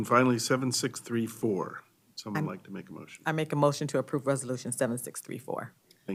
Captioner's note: chorus of ayes